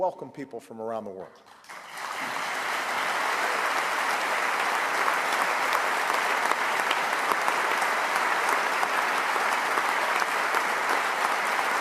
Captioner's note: applause